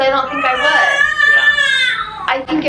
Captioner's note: baby screaming